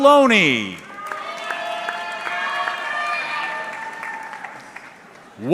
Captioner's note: audience clapping